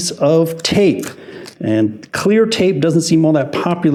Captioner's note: tape crinkling